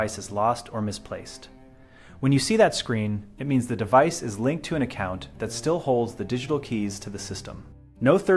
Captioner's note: speak with a helpful and authoritative tone